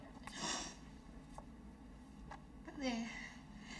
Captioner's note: Jenny sniffling